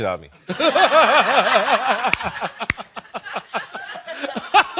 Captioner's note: laughing